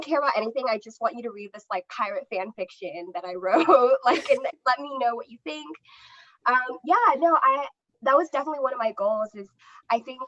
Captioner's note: laughter